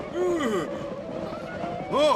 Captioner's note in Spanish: gritos de indios